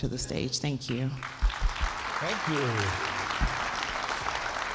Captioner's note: applause